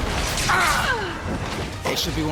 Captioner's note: wizards grunt